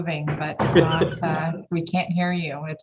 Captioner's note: laughing; door slams